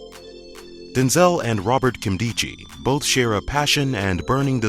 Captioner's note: voiceover